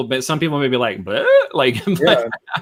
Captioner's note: laughs